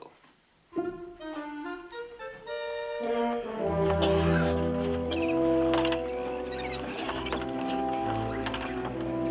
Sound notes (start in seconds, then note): 3.8 creaking; 3.9 coughing